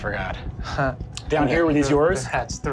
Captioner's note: laughs